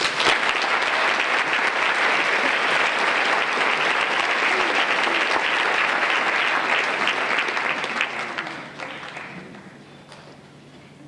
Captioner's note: applause